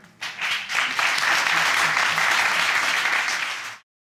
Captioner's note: audience applause